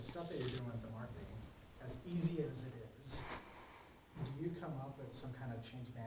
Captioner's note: speaking faintly; man speaking faintly off microphone